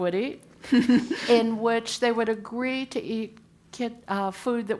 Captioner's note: laugh